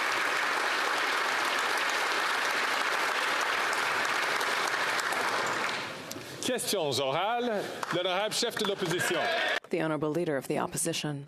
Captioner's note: applause